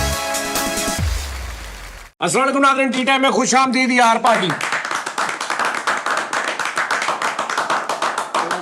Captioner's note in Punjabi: ਤਾੜੀਆਂ